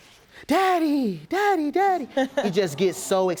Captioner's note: judge lake chuckles